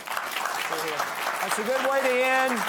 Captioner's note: audience applauding